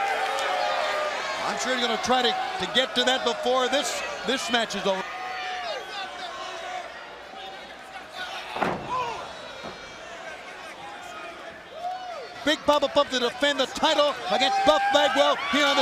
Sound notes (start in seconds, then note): 6.1 crowd chatter